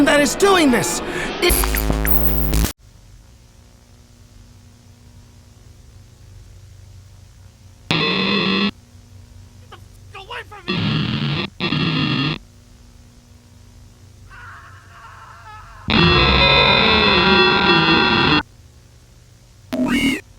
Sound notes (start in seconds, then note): 9.6 static; 9.6 buzzer; 12.9 beep